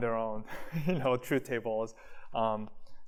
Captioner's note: laughter